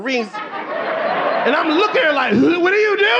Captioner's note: audience laughing